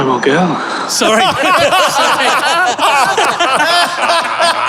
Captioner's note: group laughing uproariously